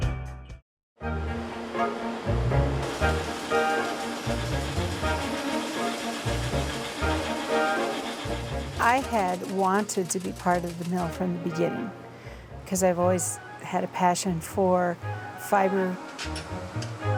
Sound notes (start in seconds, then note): 0.0 upbeat music; 1.1 machine humming